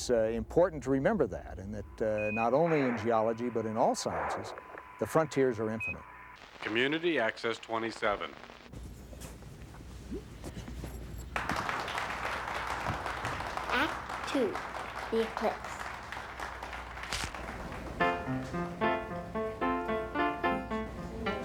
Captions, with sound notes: IT IS IMPORTANT TO REMEMBER THAT NOT ONLY IN GEOLOGY BUT IN ALL SCIENCES, THE FRONTIERS ARE INFINITE. Community Access 27. ( applause ) ( piano music plays )